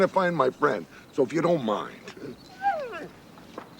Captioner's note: dog barks